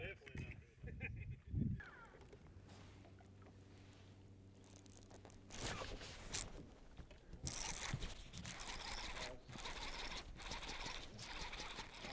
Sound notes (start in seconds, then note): 0.4 laughter; 7.4 rod reeling